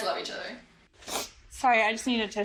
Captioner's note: sniffs nose